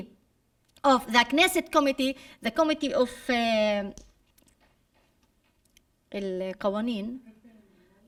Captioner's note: speaking arabic